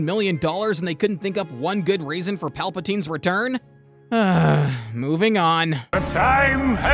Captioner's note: sigh